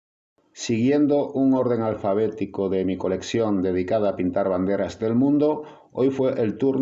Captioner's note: in Spanish